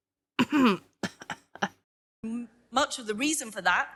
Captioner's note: laughs